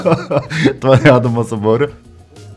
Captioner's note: uproarious laughter